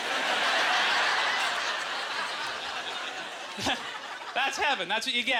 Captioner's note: audience laughter